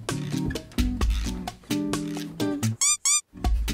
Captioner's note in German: Bossa-Nova-Musik; Quietschgeräusche; Bossa-Nova-Musik